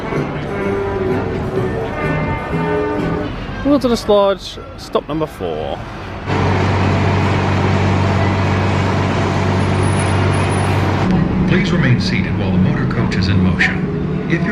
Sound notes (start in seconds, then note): 0.0 cheerful brass music; 6.5 engine humming